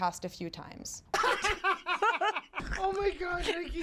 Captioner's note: both laughing